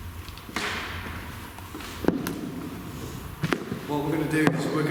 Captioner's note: footsteps echoing